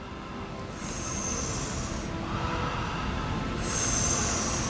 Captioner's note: heavy, rhythmic breathing